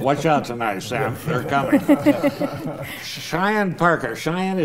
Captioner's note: panel laughing